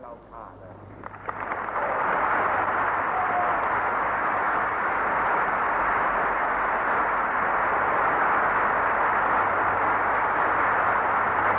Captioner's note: applause